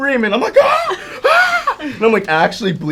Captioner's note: screams